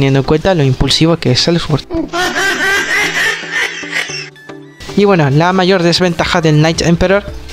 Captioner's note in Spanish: mujajajajajaja